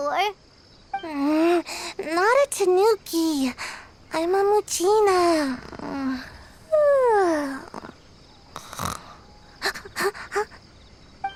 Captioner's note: snore